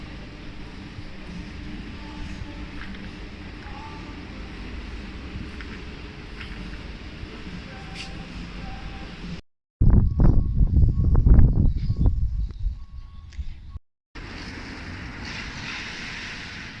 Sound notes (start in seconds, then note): 9.8 wind; 14.2 rain, puddles being driven through